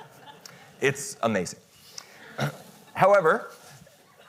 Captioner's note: audience chuckles